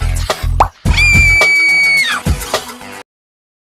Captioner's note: scream